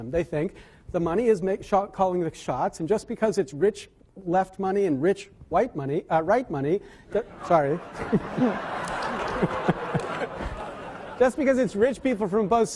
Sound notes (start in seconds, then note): 7.7 laughing